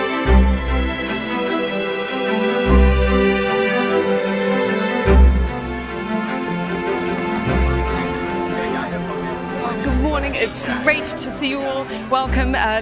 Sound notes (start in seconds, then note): 4.8 bright classical music continues; 8.3 people chattering